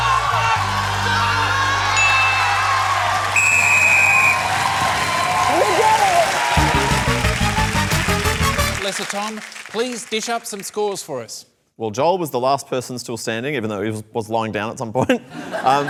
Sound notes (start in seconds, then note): 2.1 cheering, applause; 3.3 tom blows whistle